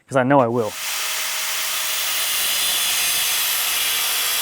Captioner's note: saw whirring